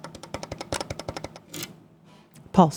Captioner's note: keyboard clicking